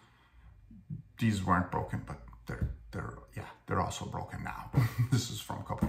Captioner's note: laugh